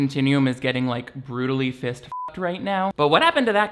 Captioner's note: beeps